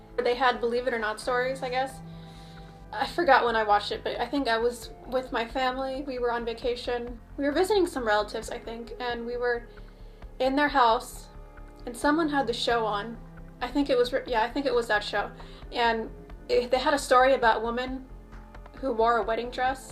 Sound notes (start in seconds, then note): none